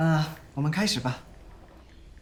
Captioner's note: Calvin speaks in Mandarin